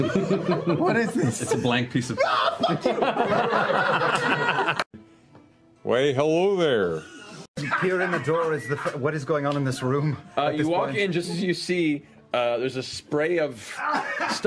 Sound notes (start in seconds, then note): 0.0 chuckling; 2.1 laughing; 7.2 coughing